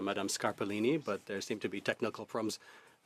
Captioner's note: speaking French